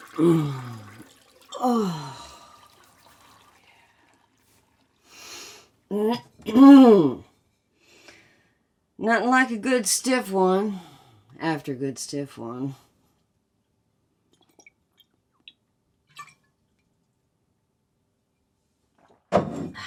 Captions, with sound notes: (Betsy moans) - Oh, yeah. Nothing like a good stiff one after a good stiff one. (beer sloshes)